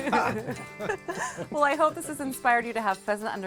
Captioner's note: laughing